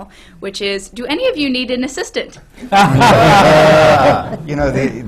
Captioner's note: laughter